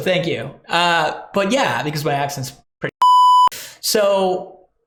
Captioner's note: beep